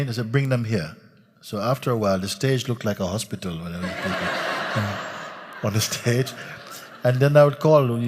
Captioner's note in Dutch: gelach